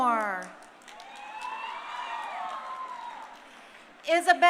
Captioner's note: crowd cheering